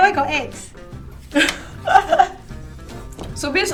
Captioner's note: laughs